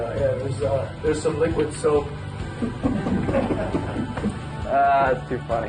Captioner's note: laughter